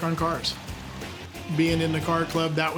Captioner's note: engine idling